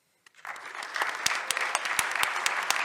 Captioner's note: audience applauds